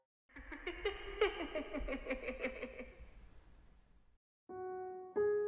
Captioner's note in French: Rire